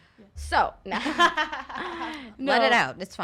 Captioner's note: laughing; laughs